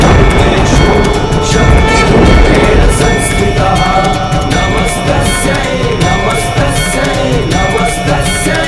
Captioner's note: sanskrit shlok